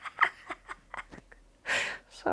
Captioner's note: laughs